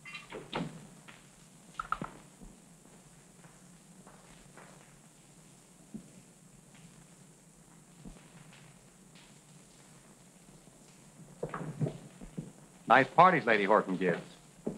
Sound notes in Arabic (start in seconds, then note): none